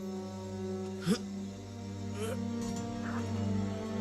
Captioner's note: chester grunts